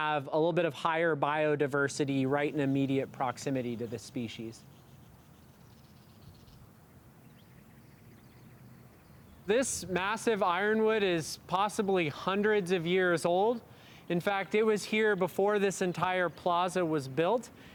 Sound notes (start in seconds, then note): 5.4 desert bird sounds